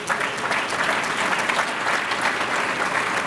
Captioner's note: applause